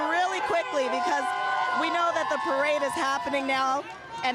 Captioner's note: cheers